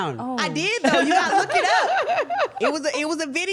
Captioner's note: laughing